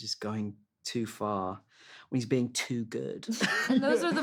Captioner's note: all chuckle